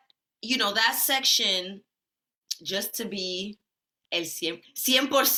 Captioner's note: speaks Spanish